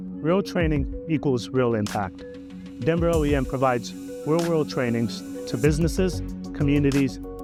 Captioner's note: none